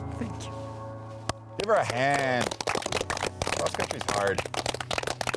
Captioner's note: all applauding